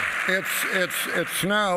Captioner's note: applause